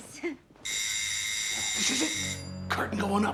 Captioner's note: door bell rings